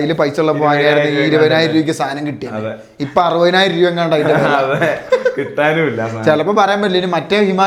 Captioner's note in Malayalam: പൊട്ടിച്ചിരി